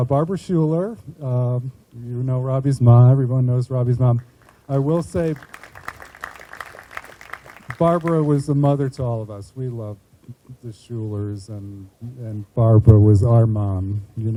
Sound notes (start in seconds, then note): 4.2 group applauding